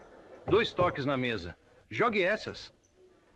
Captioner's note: two taps on the table